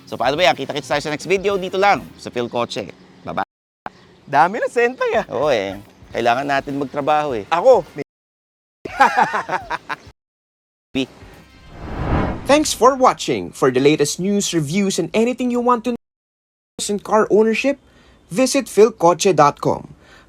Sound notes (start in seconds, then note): 8.9 laughs